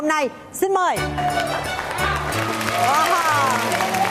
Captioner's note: funky music; clapping sounds